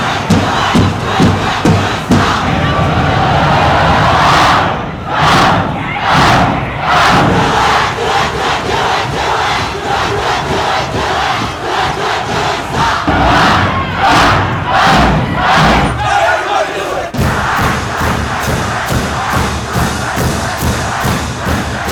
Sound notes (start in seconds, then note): 3.1 chanting in unison; 13.2 chanting in unison; 18.0 drums